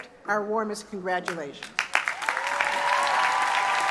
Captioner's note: cheers and applause